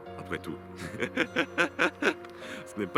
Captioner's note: laughs